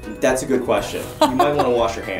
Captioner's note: laughs again